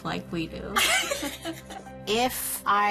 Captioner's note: laughter